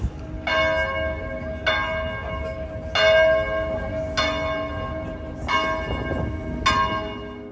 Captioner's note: church bell